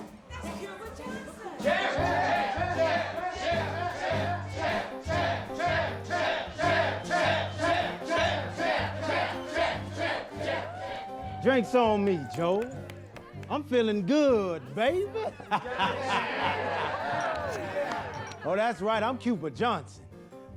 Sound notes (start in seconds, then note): 10.3 cheering; 14.5 laughing